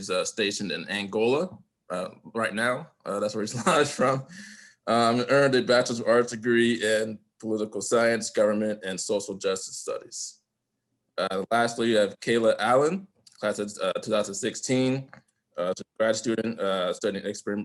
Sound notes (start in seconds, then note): 3.5 laughter